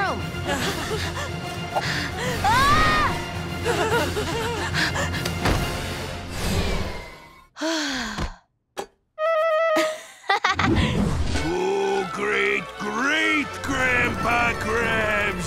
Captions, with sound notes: [panting] [screaming] [panting] [sighing] [laughing] Oh, Great-Great-Grandpa Krabs,